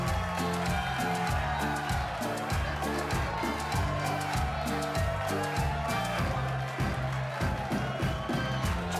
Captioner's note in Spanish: palmadas al compás